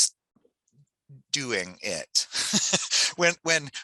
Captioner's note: laughs